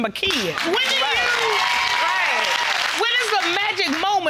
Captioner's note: audience clapping